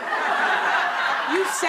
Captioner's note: laughter